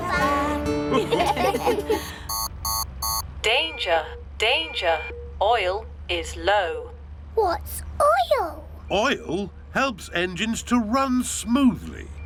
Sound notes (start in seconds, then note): 0.9 laughter; 2.2 beeping